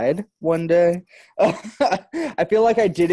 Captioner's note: laughs